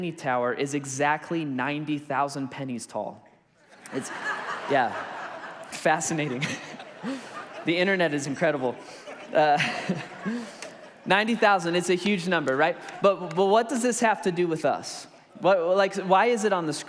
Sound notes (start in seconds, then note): 3.2 congregation laughs; 6.2 laughs